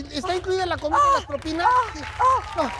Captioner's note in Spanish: Ovación